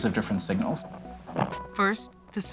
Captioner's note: light scraping